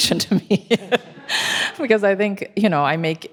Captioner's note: panelists and attendees laughing